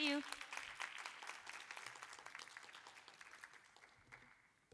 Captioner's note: applause